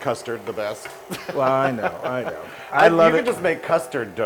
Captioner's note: laugh